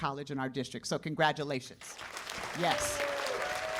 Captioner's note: cheers and applause